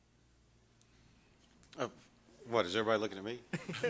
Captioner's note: laughter